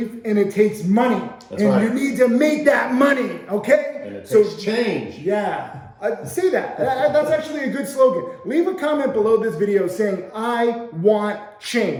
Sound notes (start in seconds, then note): 5.5 laughing